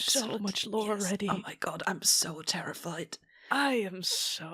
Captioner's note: whispering